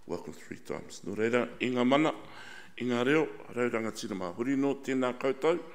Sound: speaks in foreign language

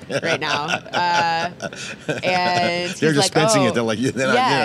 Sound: laughs

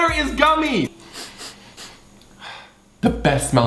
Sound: sniffing; sighing

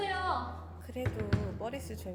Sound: knocking on the door

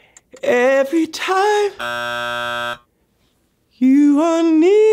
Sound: buzzer goes off

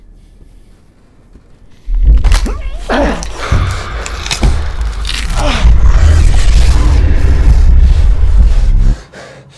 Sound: bones cracking, Max grunts in pain; growling breaks through Max's painful grunts

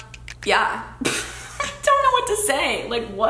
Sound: chuckles

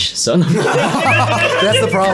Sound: all laughing

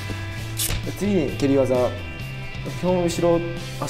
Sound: kicks

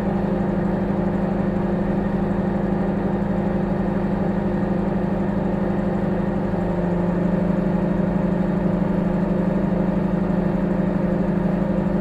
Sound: microwave humming

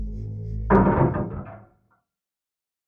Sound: thudding sound

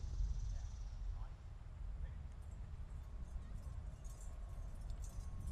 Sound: medals clinking

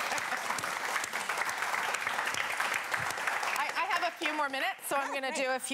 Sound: cheers and applause

